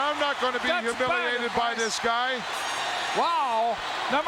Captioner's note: mumbling